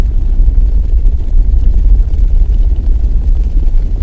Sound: sound of a herd of caribou running fast

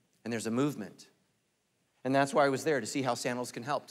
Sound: none

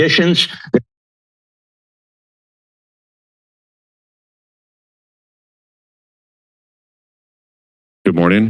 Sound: silence

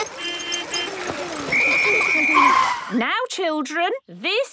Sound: whistle blowing

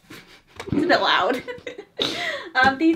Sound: laughs; both laugh

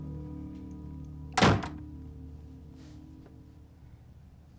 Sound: dramatic music; door slamming

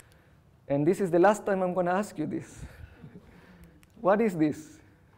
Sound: chuckles

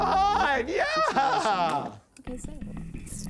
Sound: laughing

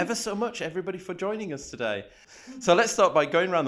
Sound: guests murmuring

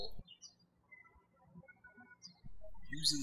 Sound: birds chirping

